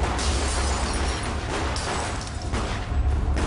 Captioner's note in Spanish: Disparos